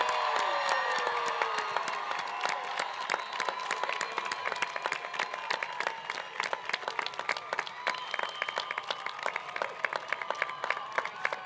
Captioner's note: applause